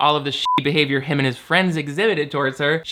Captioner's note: beep